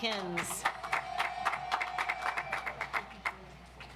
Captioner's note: audience applauds